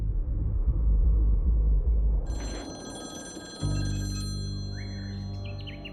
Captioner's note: phone ringing